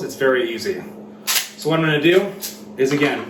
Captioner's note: gun reloading